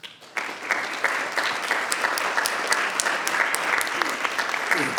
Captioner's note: audience applauding